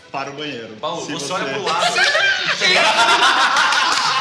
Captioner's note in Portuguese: risadas